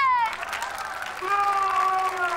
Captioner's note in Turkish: Alkış sesi